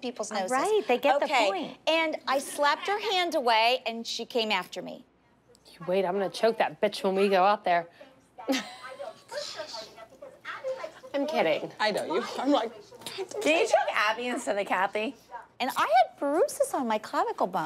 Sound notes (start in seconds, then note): 8.4 laughs